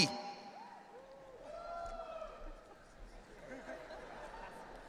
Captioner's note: audience cheering; audience laughing